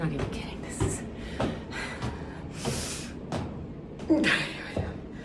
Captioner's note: breathes harder